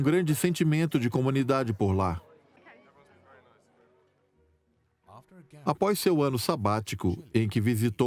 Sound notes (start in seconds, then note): 5.0 voiceover